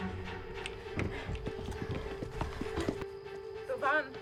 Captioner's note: insects chirping